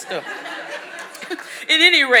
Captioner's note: audience laughing